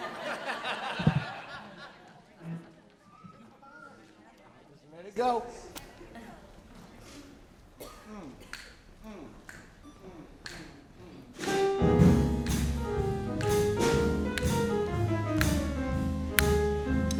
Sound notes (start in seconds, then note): 0.0 audience laughing; 8.4 snapping; 11.4 jazz music